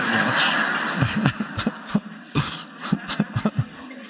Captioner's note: audience laughing